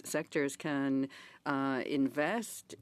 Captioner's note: speaking in French